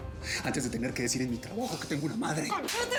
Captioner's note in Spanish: bofetada